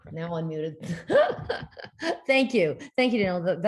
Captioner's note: giggles